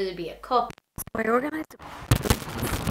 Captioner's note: mic interference